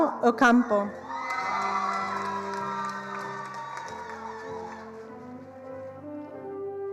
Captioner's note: attendees cheering and applauding